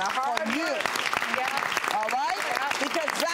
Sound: audience claps

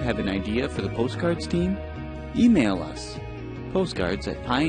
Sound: voiceover

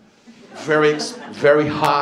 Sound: laughter

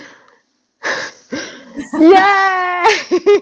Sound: laughter

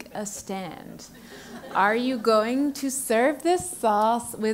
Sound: laugh

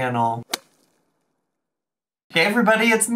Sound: slapping sound effect

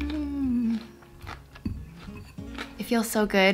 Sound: food squelching

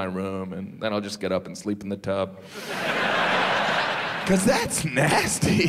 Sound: audience laughs

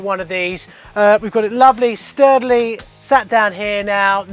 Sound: smacks tank

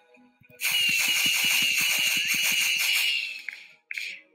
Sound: fireworks hissing

